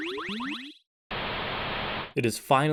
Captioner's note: static again